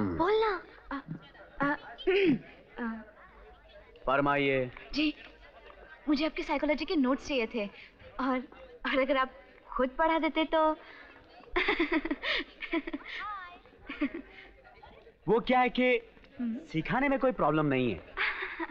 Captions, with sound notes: Tell him. (Clears throat) Speak up. I wanted your notes of psychology and... ...if you teach it yourself then... (Laughs) Actually there is no problem in teaching.